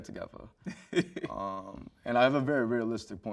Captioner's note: host chuckles